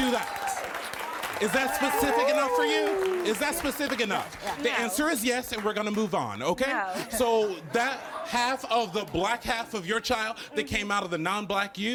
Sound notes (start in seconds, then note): 1.7 crowd cheers